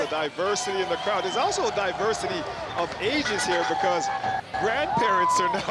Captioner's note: honking